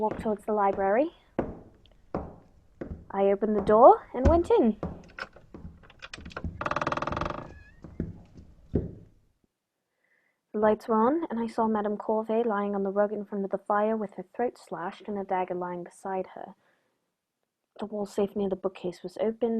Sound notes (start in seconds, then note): 1.1 footsteps on wood; 4.1 door open